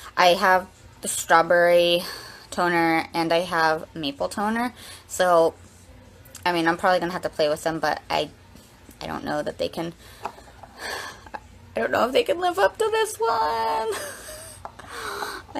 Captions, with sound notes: I have strawberry toner and I have maple toner, so, I mean, I'm probably gonna have to play with them, but I don't know that they can, (sighs) I don't know if they can live up to this one.